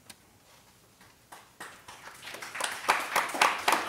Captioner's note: applauding